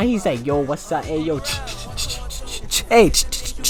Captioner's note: dancing sound effects?!